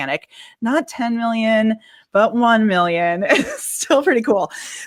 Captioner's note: laughs